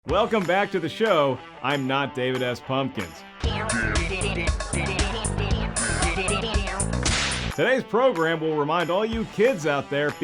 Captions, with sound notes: - Welcome back to the show. I'm not David S Pumpkins. (funky music) (whip crack) Today's program will remind all you kids out there